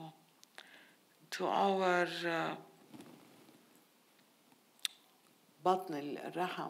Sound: speaking in foreign language

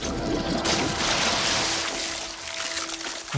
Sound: splattering

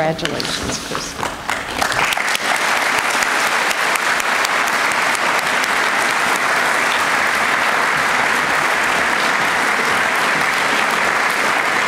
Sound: applause

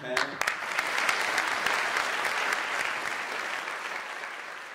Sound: applause

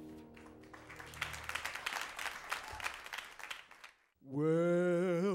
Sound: audience clapping softly

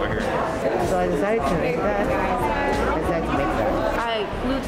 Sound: students chattering

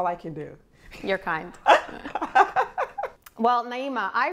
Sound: laughs

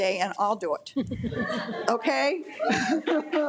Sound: audience laughs

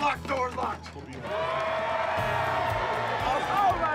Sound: all cheering

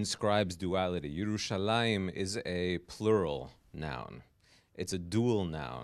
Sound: hebrew

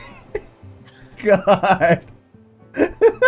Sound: laughing

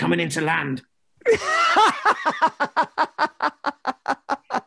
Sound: both laugh

